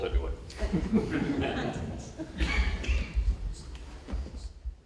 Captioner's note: laughter